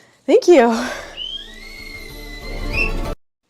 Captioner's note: whistle